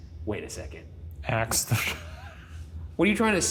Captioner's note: laughing